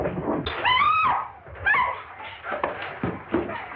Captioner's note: women shrieking